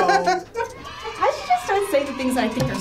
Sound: laughs; crowd cheers

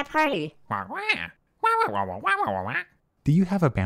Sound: inquisitive squawking

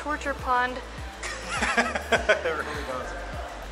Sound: laughs

